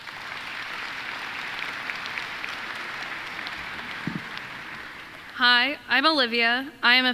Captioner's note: applause